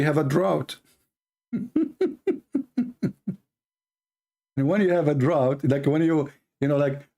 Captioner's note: Ketawa